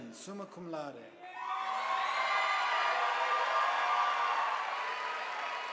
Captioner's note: audience applauding